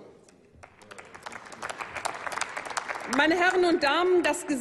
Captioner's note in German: Applaus